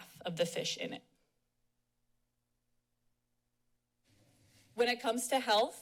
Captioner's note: pause